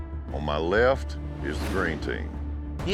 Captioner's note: none